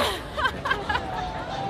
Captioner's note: laughing